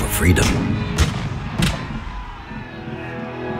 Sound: gun shots

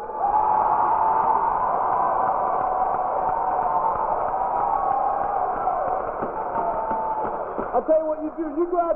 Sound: cheering

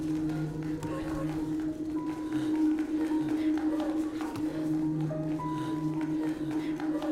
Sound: sighs

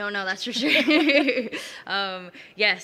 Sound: laughing

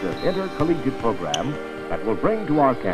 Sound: sneakers squeak; spectators chatter; whistle blows

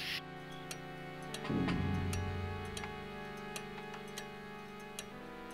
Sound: dramatic music; clock ticking

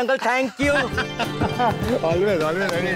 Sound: laughs

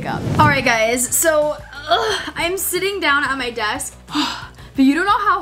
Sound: exhales

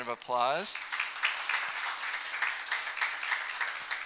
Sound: audience clapping

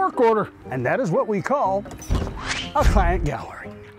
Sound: trunk shutting

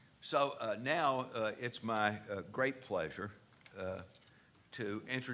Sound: none

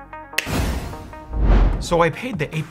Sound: teleporter whooshes

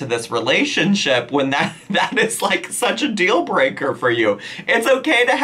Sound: laughs

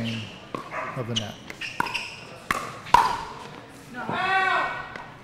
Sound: ball bouncing

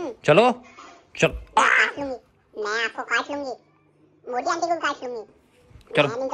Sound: shriek

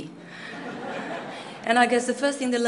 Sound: laughter

